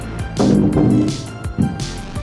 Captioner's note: rumble